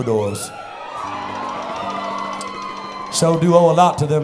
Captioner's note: crowd cheers